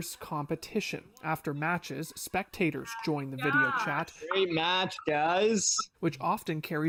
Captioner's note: laughter